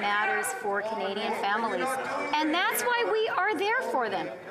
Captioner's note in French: voix de l'interprète